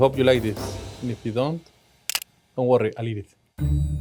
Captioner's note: camera clicks; suspenseful music